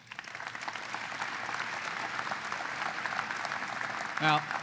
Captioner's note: applause